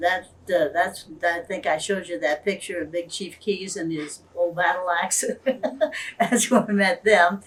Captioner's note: laughs